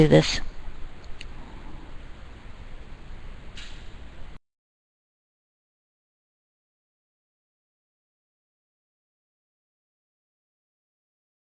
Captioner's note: silence